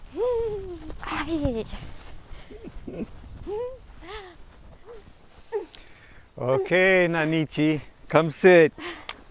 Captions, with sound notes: (Ana giggling) (leaves rustling) - Okay, Nanichi, come sit.